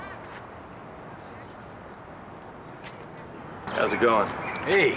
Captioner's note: traffic passing